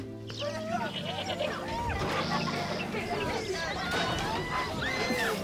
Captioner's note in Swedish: Mall Rats skriker och skrattar